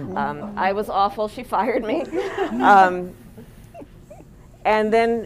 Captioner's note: laughter